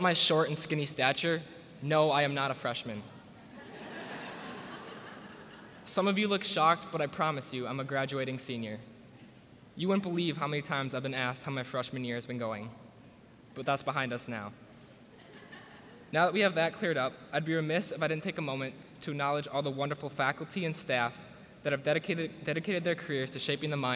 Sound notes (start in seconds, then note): 3.4 laughter